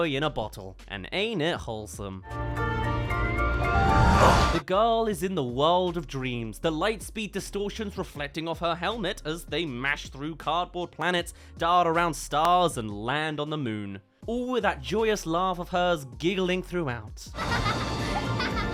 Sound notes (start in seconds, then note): 17.4 laugh